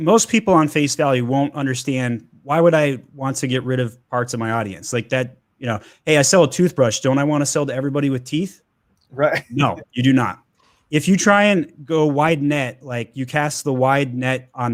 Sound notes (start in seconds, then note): 9.2 chuckles